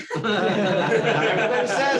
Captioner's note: laughter